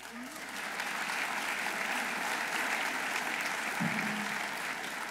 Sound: audience applauding

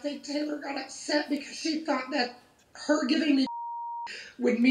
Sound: beeping

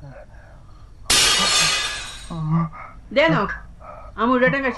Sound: plate breaks

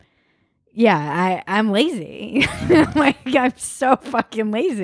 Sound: laughs

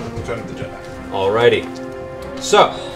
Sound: whisper

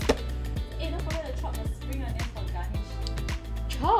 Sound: none

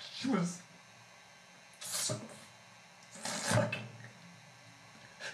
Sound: Drew sobbing

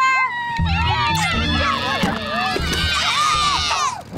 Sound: cheering

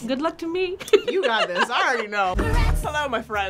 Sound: laughing

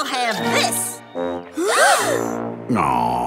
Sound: gasping

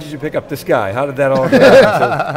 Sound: laughter

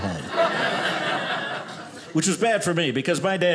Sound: audience laughing

